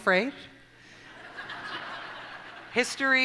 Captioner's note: laughter